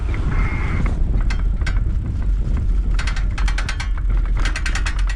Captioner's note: metal rattling